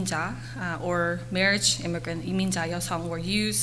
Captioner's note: foreign language; foreign language